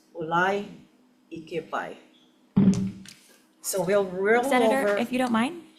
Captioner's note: speaks Hawaiian